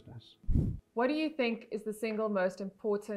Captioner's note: air whooshing